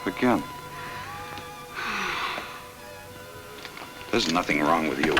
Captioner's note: Ellen sighs